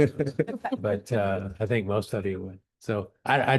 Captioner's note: laughter